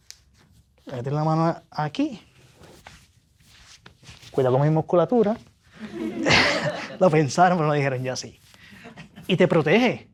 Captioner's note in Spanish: risas